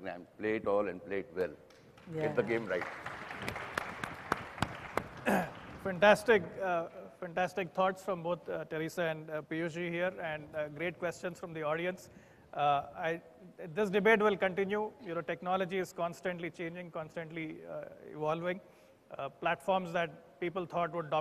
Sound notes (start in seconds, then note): 3.3 applause